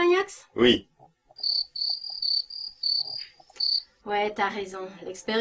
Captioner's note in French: criquets.mp3